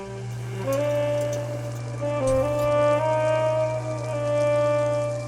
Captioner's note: raindrops pattering